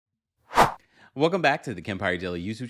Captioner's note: swoosh